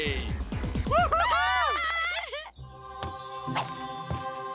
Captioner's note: cheering